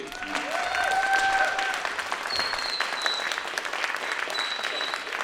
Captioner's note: applause, cheering